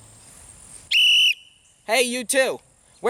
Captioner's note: whistle blows